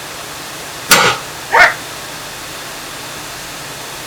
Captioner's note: crying